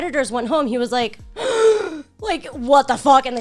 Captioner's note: gasps